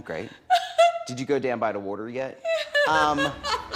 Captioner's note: eastern accent; laughs